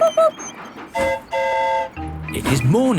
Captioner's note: train whistle toots; mimics train whistle